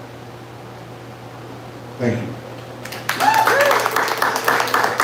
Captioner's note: applause